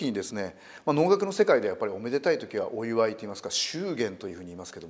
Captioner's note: joyous and celebratory in English